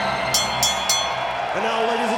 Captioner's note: bell ringing